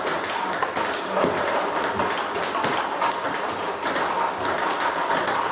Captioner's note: ball ping pong hitting continues